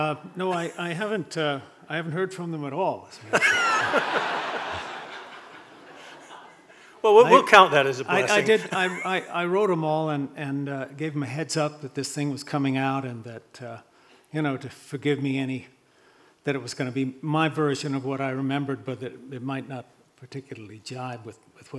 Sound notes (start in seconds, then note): 0.1 people chuckling; 3.2 group laughing